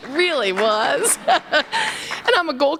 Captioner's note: laughter